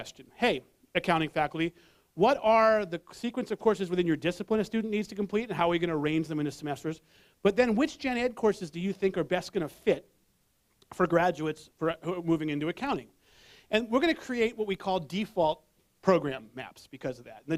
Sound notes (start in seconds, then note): none